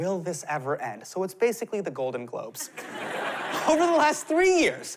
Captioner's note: laughter